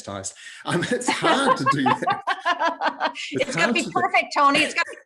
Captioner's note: laughing